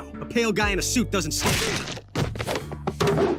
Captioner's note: smack